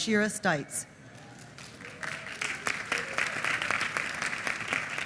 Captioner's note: applause